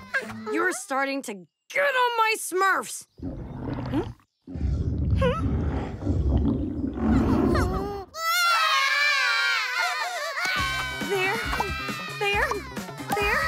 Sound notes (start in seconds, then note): 3.2 all stomachs rumbling; 7.2 crying